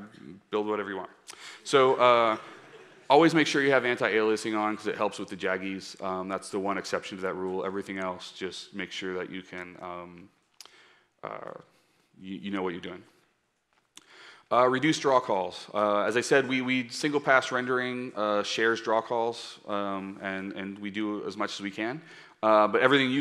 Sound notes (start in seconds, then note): 2.2 laughter